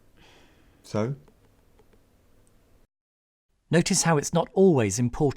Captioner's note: sigh